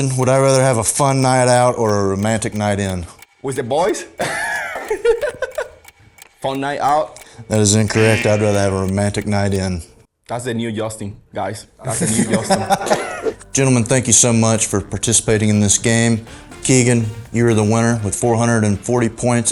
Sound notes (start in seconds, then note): 3.9 laughs; 7.6 buzzer; 11.8 laughs